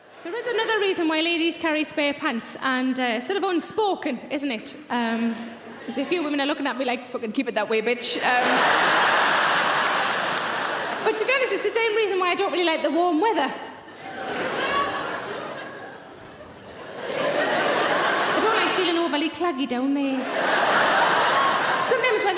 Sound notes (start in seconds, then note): 8.2 audience laughing